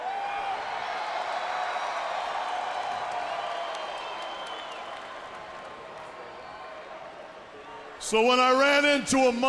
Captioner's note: crowd chatter